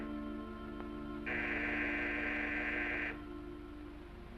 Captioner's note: door buzzer sounds